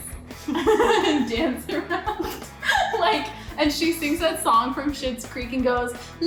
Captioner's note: laughs